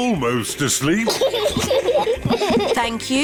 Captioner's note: both laugh